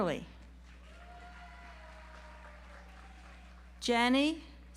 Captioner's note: audience applauds